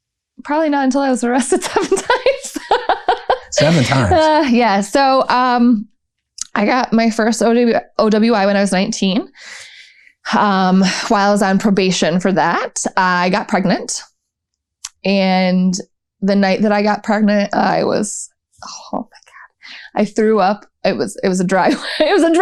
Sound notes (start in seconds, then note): 1.6 laughter